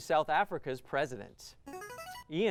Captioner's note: buzzer